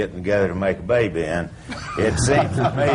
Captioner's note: laughter